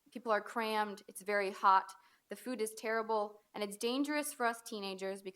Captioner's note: none